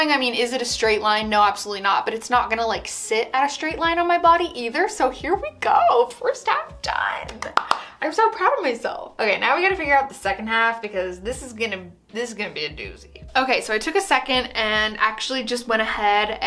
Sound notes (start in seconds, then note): 7.2 claps